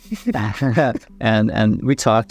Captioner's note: chuckles; laughs